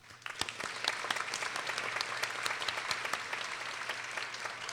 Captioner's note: people applauding